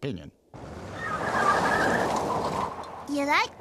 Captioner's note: tires squealing